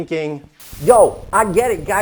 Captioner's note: static crackling